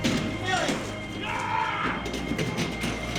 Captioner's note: Brigand roars